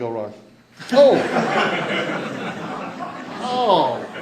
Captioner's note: laughter